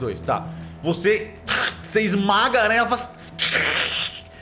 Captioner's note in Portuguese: Som da aranha sendo esmagada; Barulho da aranha